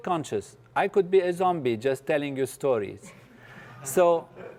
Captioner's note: laugh